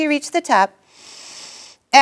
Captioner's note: inhaling